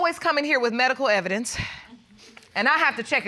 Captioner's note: sighs